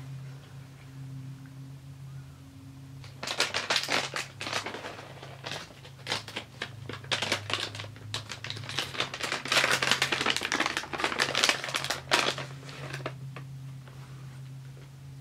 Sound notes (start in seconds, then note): 3.0 bag crinkling